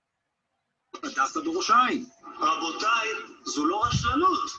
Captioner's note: non-english speech